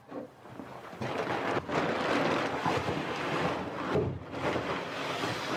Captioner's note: garbage bag dragging